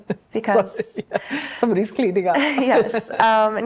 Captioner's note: laughs